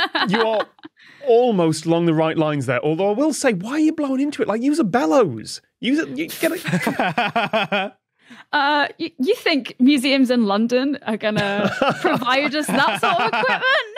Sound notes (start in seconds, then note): 0.0 both laughing heartily; 5.7 stammers; 5.9 laughs